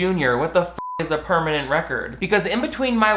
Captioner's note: beep